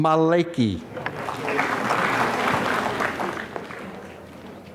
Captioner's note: applause